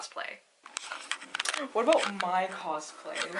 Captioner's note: camera shaking